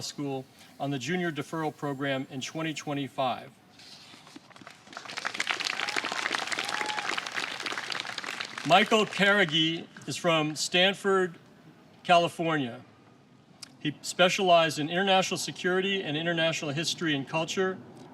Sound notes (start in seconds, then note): 4.5 applause